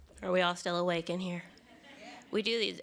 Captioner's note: laughter